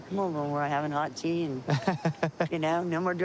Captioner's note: laughs